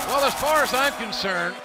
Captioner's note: cheers and applause